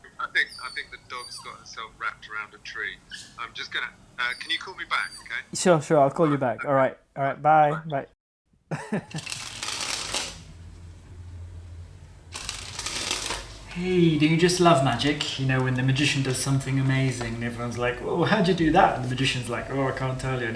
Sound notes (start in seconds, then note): 3.2 dog yelps; 8.6 augusto laughs